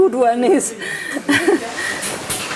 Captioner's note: laughter